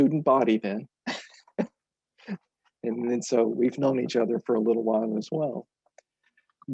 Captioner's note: laughs